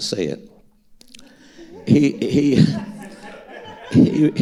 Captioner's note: audience laughing